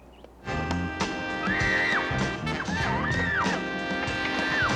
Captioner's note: kelly screaming